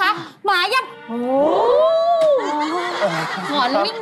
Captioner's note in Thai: เสียงหอน